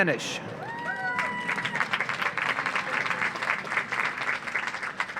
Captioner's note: audience applauds